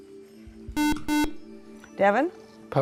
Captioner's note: buzzer